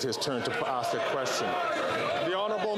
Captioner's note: some Applause